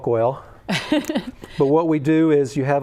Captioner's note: laughter